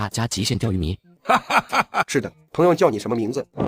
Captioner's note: chuckles